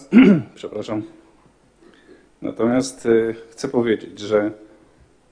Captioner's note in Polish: chrząknięcie